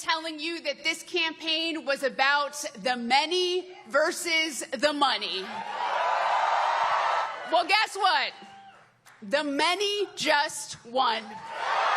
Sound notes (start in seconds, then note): 5.5 cheering